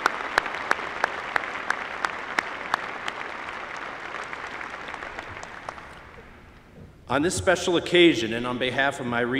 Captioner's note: applause